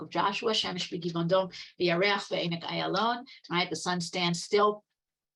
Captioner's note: speaking Hebrew